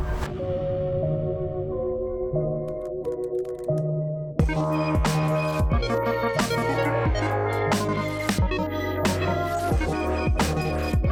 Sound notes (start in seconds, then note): 0.2 gentle mysterious music; 2.7 keys clicking